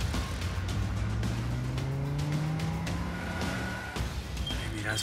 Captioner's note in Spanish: ruido del motor